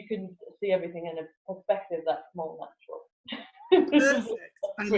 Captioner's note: laughs